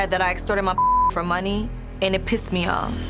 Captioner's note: beep